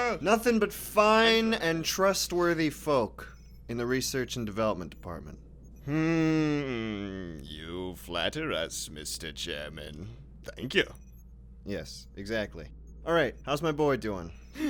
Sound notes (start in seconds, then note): none